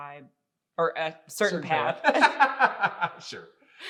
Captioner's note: laughing